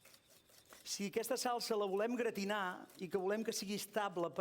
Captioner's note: non-english speech